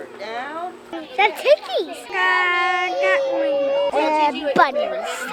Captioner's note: overlapping chatter